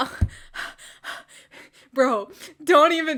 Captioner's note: heavy breathing